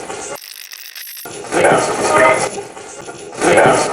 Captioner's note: radio scratching; radio voice